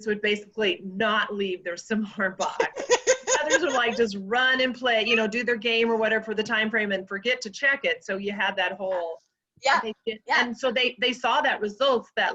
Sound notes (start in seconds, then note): 2.5 laughs